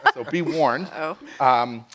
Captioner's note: chuckles